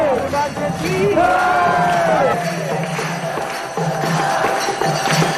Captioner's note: Applausi